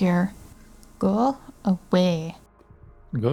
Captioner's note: bad accent